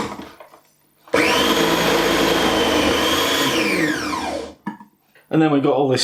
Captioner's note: motor sound again